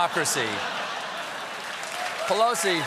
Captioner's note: laughter; cheers; applause